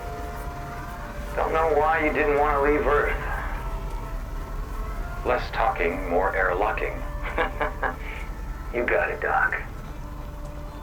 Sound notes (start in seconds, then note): 7.0 laughs